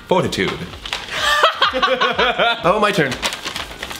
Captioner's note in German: bricht in Gelächter aus